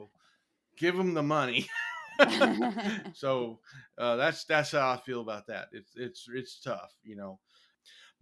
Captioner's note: laugh